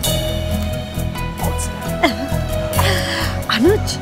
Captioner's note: Zeenia laughs